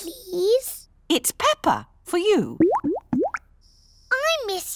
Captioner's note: bubbling